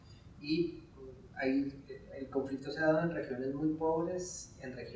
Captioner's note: speaking in Spanish